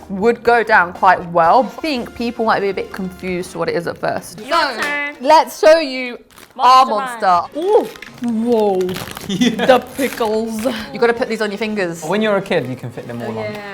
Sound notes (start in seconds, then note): 4.5 cheers and claps; 9.3 laughs